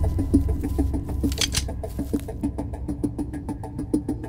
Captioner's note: intense music; hammer clicks